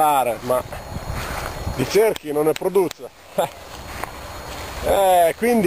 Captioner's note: mocking laughter